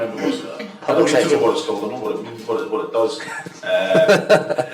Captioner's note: attendees laugh